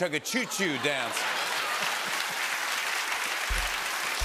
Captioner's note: applause